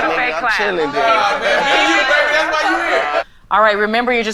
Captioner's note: group chatting